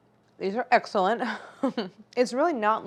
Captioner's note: laughs